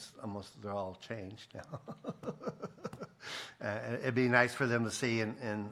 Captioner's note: laughs